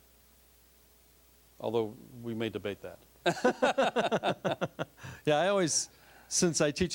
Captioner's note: both laughing